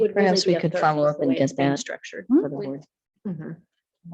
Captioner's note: murmurs